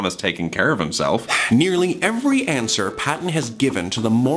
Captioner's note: sighs